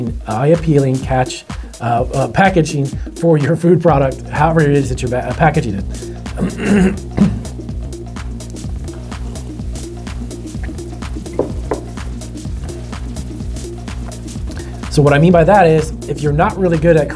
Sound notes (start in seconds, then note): 6.3 clears throat; 8.6 electronic dance music